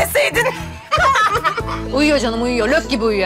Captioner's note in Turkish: Gülme sesi